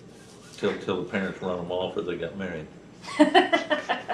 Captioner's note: laughter